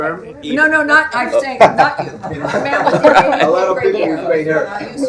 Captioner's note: laughter